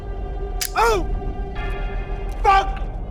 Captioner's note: clicking